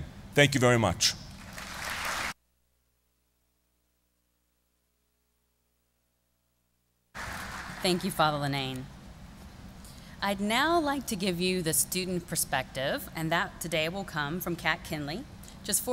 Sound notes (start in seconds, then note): 4.4 applause